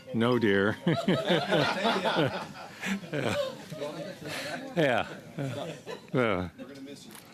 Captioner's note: laughter